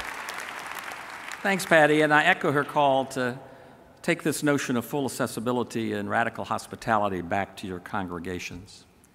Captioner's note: applause